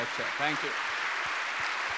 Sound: audience clapping

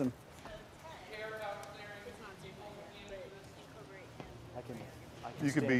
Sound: voices speaking in background

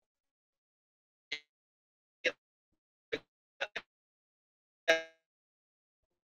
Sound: voice crackles

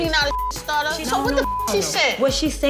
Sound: beep

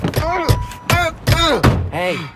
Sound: grunting

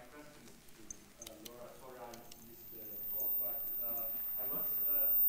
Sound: speaks off microphone

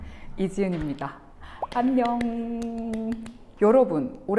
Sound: clap

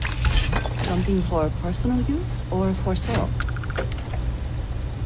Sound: voiceover

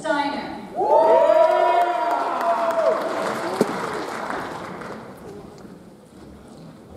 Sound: audience cheers; audience applauds

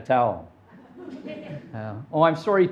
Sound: audience laughing

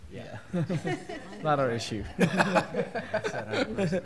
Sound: laughter; laughter

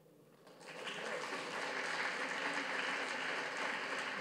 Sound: audience claps

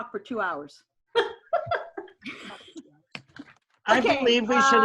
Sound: laughs

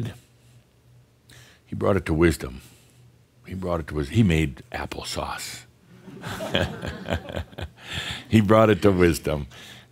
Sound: Adamus chuckles

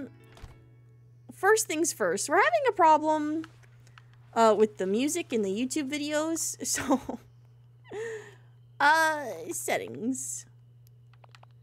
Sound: laughs

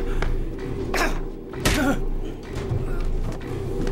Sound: grunting

